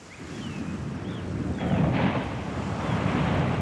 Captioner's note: ocean roaring